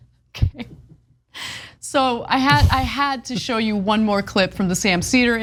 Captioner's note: laugh